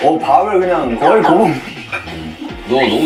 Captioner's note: haha